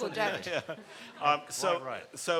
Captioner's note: people laughing